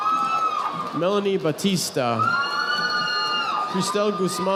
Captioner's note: audience applauding